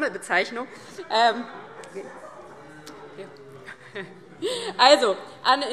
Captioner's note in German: Heiterkeit - Zuruf: Ui, ui, ui!